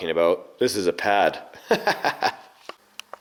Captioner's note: laughs